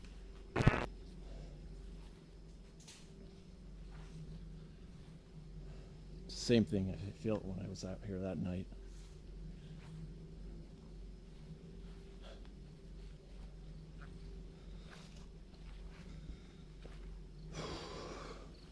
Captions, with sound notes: (static hisses) Same thing. I feel it when I was out here that night. (crickets chirp)